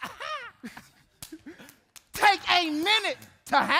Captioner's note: performer 2 laughs; hands slapping